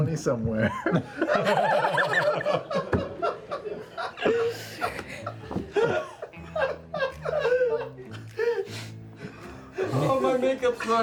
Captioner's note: snickering